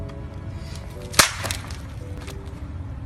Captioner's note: phone smashing on the ground